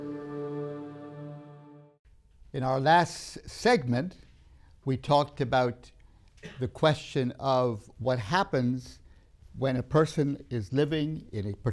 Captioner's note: coughs